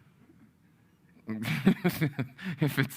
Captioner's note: laughing